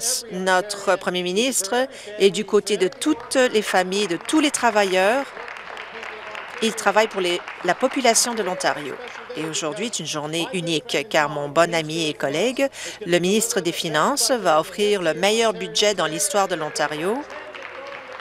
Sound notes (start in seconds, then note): 10.5 applause